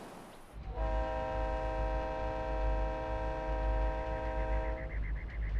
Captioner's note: train whistle blaring